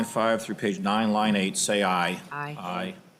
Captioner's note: chorus of ayes